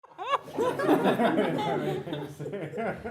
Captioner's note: people laughing